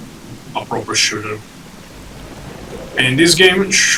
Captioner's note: thunder and heavy rain